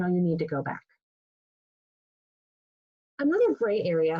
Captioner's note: pause